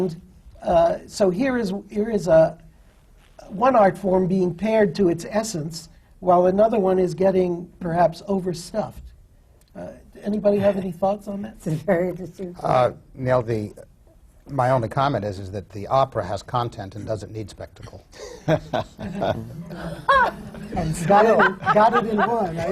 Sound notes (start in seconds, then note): 18.1 laughter; 22.4 laughs